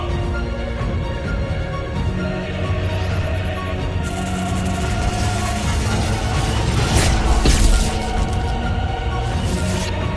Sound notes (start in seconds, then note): 0.3 thrilling choral music; 2.7 energy buzzing; 2.8 device whirring